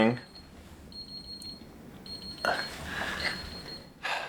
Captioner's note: alarm beeping